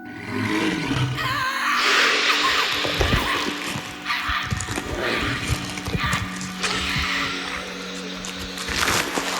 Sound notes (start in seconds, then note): 0.3 snake growls; 1.1 Diana screaming